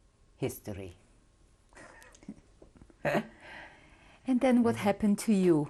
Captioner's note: laughs